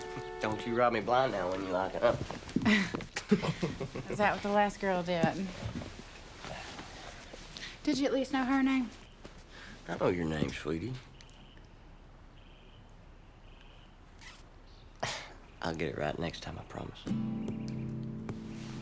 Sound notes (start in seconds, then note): 2.6 laughing